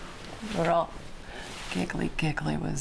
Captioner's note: none